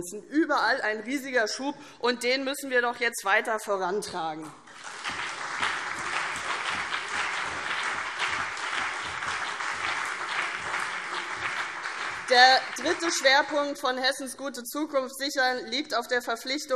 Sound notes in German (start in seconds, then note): 4.6 Beifall CDU und BÜNDNIS 90/DIE GRÜNEN